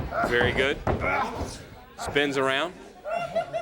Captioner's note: crowd chatter